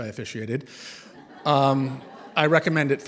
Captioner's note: laughter